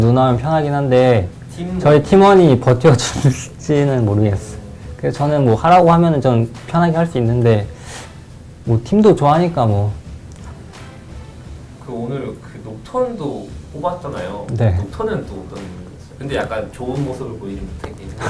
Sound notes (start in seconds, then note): 2.9 laughs